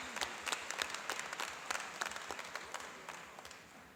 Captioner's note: applauding